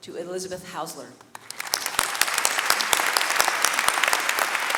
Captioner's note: audience clapping